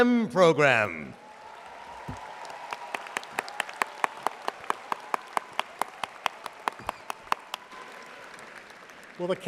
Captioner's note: audience applauding